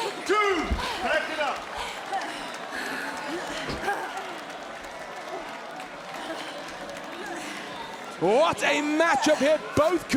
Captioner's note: applause